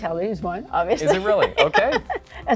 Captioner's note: laughs